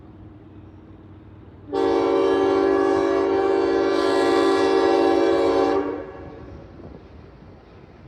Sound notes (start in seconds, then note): 1.7 long horn